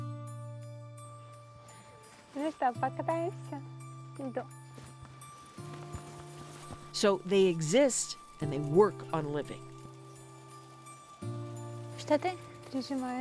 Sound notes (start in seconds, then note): 8.5 speaking alternate language